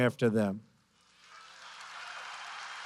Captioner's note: applause